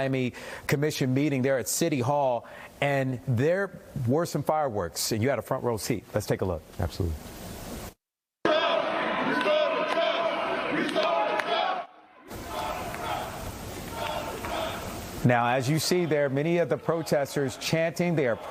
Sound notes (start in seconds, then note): 14.1 chanting